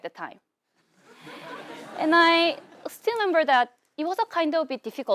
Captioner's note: laugh